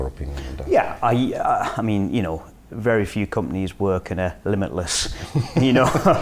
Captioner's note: laughing